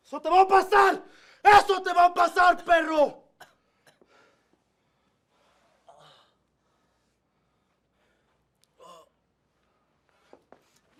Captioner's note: speaking spanish